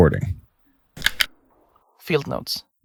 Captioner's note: recorder clicks on